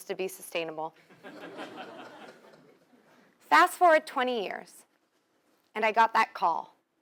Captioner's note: laugh